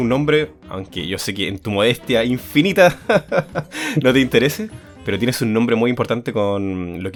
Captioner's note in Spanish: risas